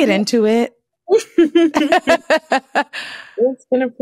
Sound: laughter

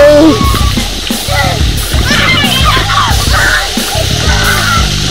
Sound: laughter and screaming

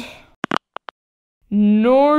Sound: click!

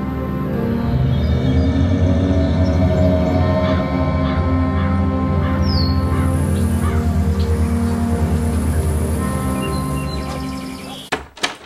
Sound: monster groan

